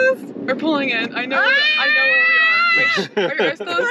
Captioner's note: screaming